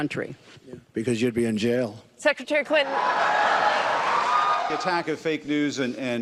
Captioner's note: audience cheers